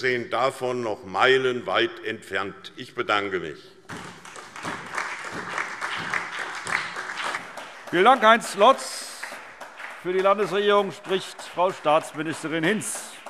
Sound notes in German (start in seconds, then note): 3.9 Beifall SPD